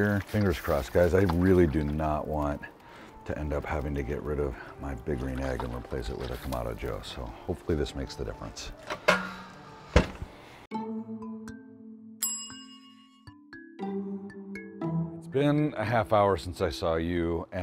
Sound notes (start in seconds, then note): 12.1 tinkling music; 12.2 timer dings